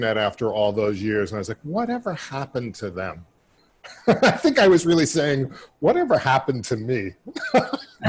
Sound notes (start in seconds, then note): 5.8 laughing